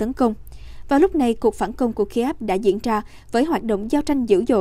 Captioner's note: Ukrainian